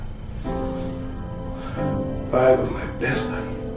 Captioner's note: gasps